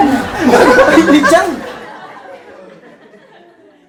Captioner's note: laughing